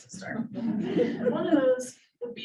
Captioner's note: audience laughing